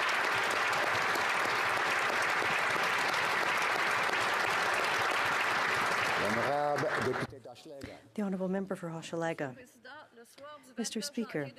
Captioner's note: applause